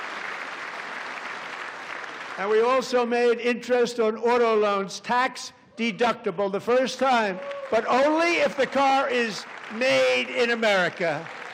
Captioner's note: applause